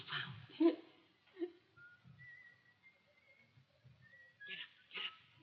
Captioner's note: whistles